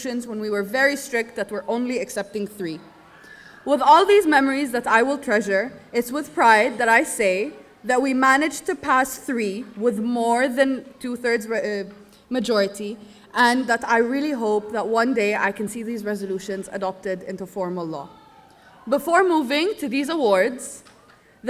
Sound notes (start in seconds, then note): none